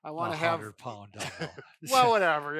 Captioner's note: chuckles